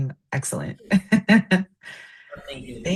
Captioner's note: laughter